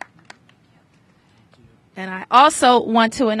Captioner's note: applause